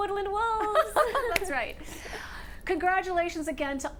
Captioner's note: laughs